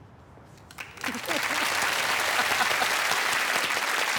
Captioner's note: applause